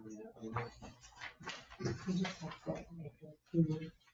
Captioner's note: group chattering